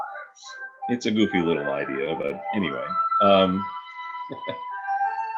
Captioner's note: laughs